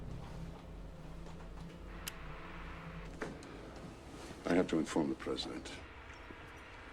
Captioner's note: none